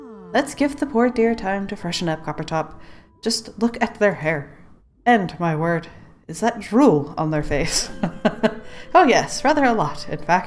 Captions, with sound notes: "Let's give the poor dear time to freshen up Coppertop. Just look at their hair and my word.. is that drool on their face?" *laughs* "Oh yes, rather a lot in fact."